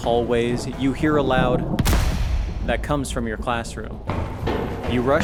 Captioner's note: bang